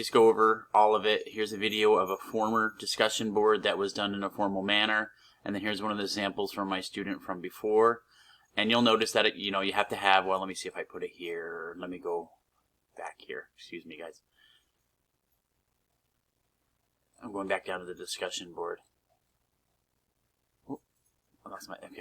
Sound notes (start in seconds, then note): 14.3 silence